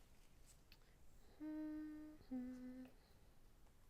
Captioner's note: hums